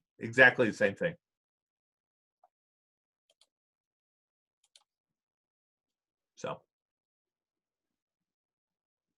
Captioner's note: silence